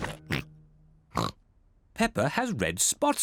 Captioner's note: oinks